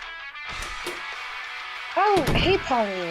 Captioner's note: door opens and closes